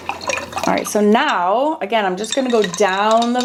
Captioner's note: water whirring